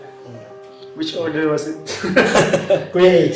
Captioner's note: laugh